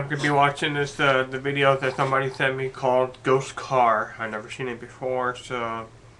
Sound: stuttering

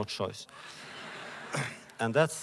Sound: laughter

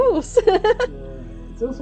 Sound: laughing

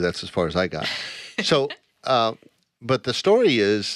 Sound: laughing

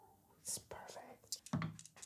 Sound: whispering

